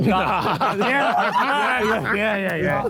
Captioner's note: Sidemen laugh